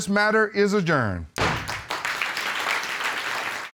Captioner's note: applause